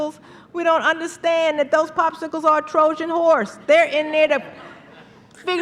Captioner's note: laughter